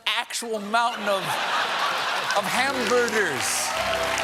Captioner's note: cheers and applause